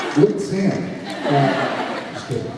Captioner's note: laughs